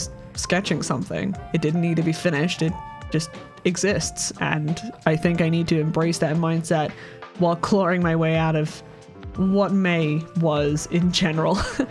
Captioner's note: chuckles